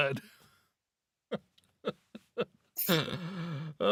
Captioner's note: laughing